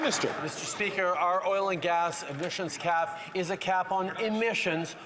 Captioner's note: applause